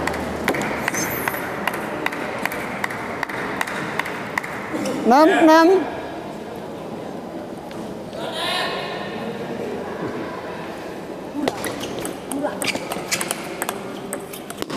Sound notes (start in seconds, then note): 1.1 applause